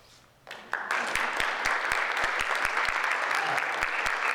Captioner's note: audience applauds